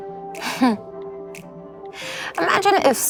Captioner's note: laughs